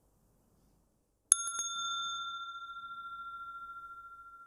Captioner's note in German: Mooji klingelt das Glöckchen